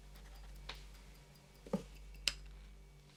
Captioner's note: stopwatch clicks